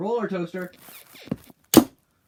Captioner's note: bed squeaks